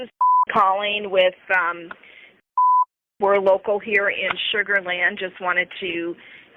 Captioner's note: beep; beep